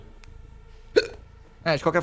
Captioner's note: hic